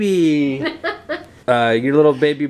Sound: laughing

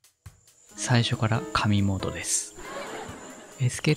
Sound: laughs

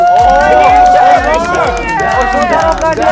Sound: fancy footsteps like water

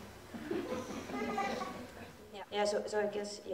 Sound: audience giggles

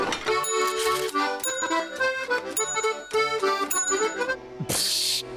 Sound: bell ringing

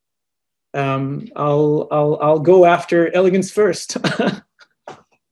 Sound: laughs

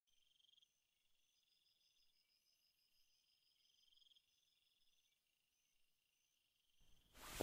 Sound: nighttime Ambience; bedtime Rustling

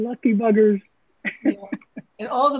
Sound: laughs

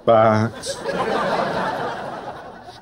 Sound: laughing

